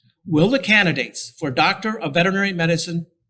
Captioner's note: none